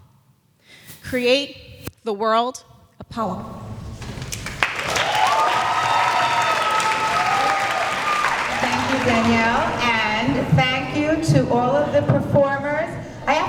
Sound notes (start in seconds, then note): 4.0 applause